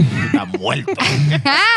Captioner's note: laughing